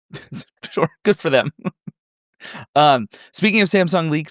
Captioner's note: chuckles